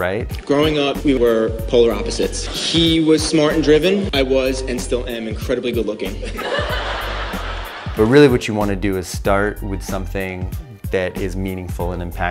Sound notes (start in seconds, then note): 6.2 laughing